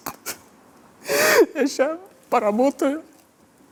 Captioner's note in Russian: сквозь слезы